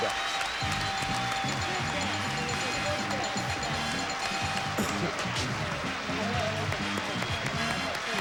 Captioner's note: audience applauding